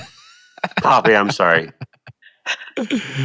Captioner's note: laughing